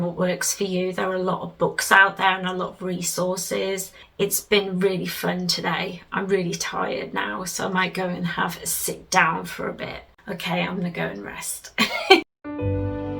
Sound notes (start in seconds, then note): 11.8 laughs; 12.4 relaxing music plays